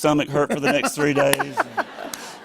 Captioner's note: laughter